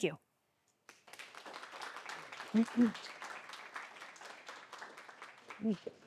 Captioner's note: audience applauds